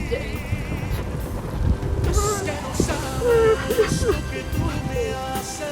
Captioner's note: sobs